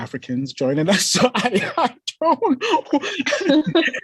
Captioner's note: laughs; both laughing